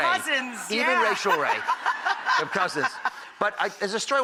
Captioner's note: laughs